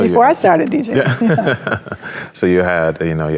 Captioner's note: both chuckles